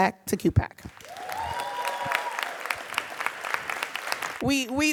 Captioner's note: audience cheering and applauding